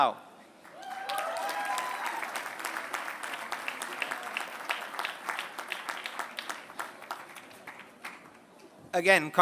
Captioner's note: applause